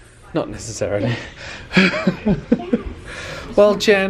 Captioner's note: laughing